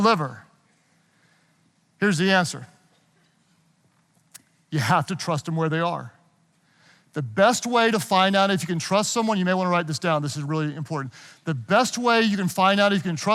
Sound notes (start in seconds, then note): none